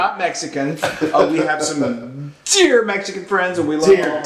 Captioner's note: laugh